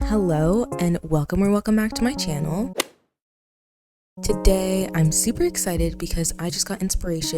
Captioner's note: golf hit sound effect